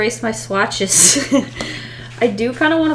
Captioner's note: laughs